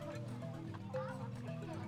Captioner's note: indistinct chatter